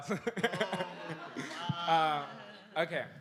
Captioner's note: laughter